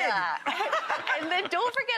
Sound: laugher

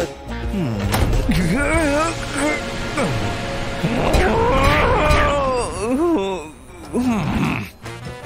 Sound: grumbles

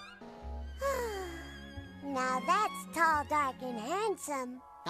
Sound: sighs

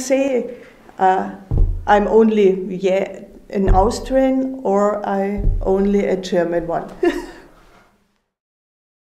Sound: chuckles

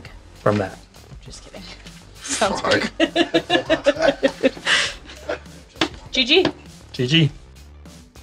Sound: laughs

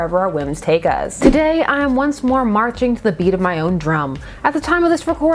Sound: drum sound effect

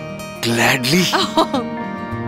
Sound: laughs

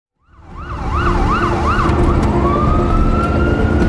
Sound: sirens wailing; dramatic music

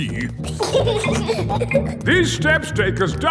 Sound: giggling

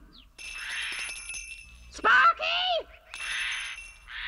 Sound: doorbell rings

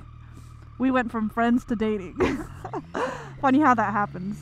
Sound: chuckles

